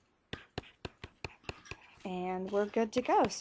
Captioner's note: stylus writing